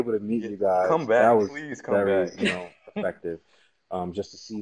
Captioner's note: laugh